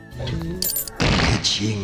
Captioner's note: sound of a coin drop, followed by flatulence